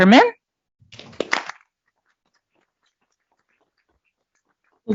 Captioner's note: applause